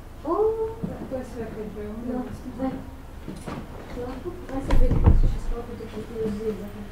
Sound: indistinct chatter

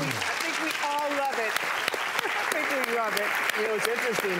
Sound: audience applauding

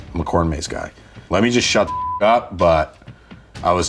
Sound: beeps

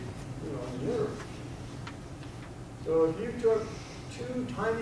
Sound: none

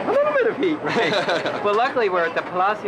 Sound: laughing

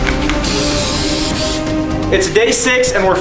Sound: dramatic music; spray hissing

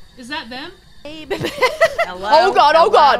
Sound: laugh

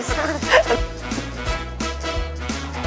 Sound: inhaling

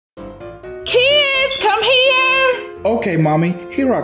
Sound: shouting

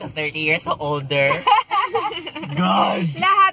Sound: laughs

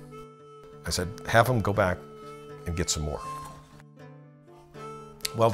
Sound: none

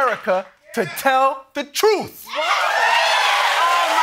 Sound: cheers and applause

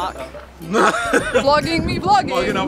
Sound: laughing

